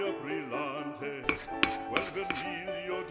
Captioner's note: scratching the plate